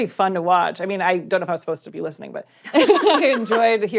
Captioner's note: laughter